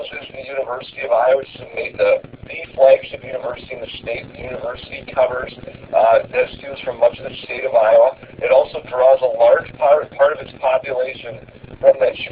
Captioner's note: lesson audio plays